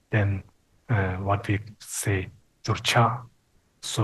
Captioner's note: speaking Tibetan